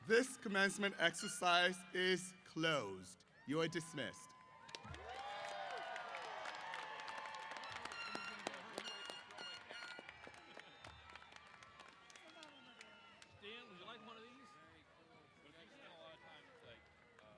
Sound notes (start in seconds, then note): 3.5 applause & Cheers